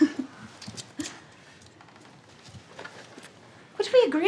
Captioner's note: lighter flickers